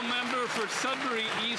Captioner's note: some Applause